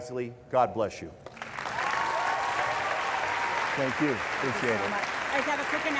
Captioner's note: applause